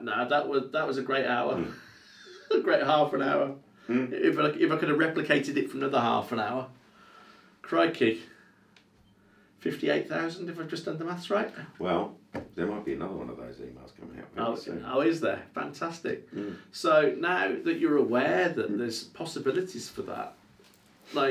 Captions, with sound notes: No, that was a great hour. (laughs) Great half an hour. If I could have replicated it from another half an hour. Crikey. 58,000 if I've just done the maths right. - Well, there might be another one of those emails coming out. - Oh is there? Fantastic. So now that you're aware that there's possibilities for that.